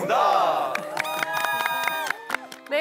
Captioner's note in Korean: 소리 질럿